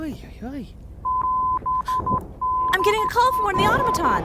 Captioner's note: device beeping